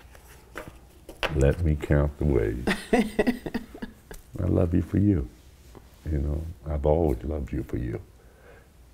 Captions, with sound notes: - Let me count away. (she laughs) I love you for you, I've always loved you for you.